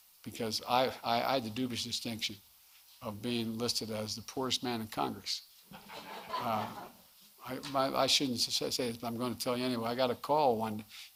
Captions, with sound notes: because I had the dubious distinction of being listed as the "poorest man in Congress." (Laughter.) I shouldn't say this, but I'm going to tell you anyway. I got a call when --